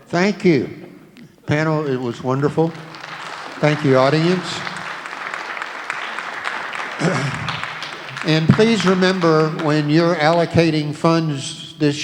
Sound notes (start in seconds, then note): 4.8 applauding crowd